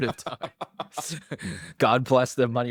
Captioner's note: laughs